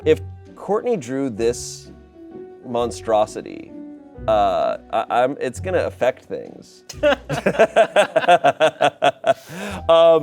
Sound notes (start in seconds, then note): 6.9 laughs